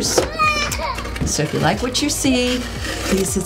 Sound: baby crying

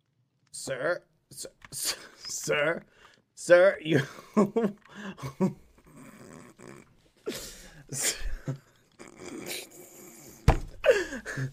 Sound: laughter

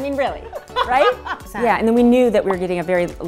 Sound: laughing

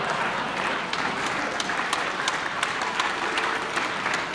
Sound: audience clapping

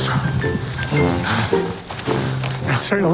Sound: huffing and puffing

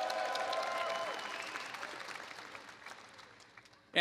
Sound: applause

